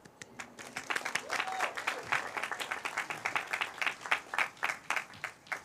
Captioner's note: cheers, applause